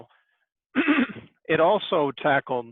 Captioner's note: clears throat